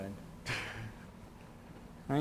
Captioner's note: chuckles